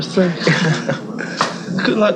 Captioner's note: giggling